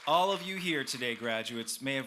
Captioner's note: cheers